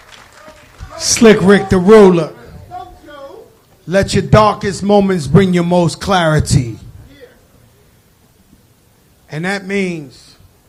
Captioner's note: applause